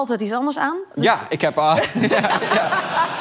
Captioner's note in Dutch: gelach